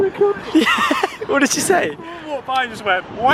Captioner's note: laughs